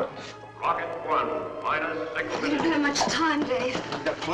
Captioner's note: loudspeaker